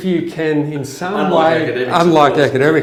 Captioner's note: chuckling